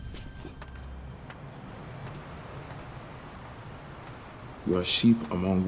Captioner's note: footsteps thudding; metal clanking